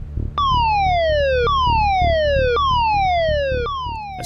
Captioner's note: siren wailing